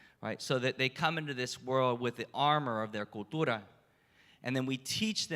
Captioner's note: spanish